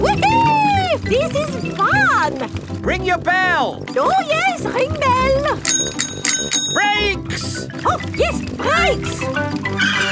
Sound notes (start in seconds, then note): 5.6 rings bell